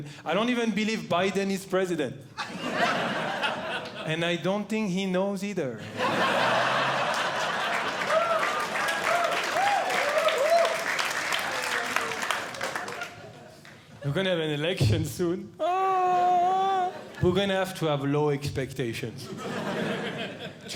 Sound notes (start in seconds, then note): 2.4 audience Laughing; 5.8 audience Laughing; 8.9 audience Clapping; 19.3 audience Laughing